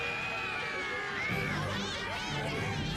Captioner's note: all screaming